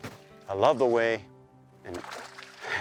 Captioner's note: laughs